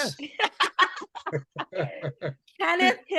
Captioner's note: laughing loudly